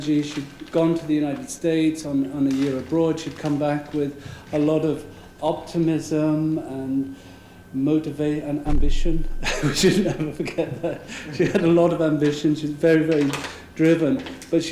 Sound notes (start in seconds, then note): 9.4 laugh